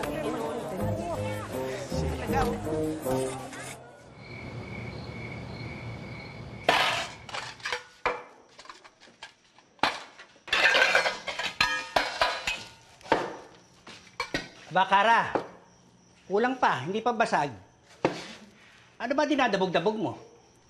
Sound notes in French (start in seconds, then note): 6.7 cups clanging; 10.4 dinnerware clattering